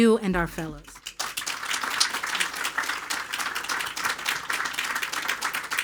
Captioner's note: attendees applauding